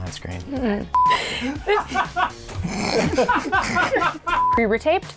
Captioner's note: laughter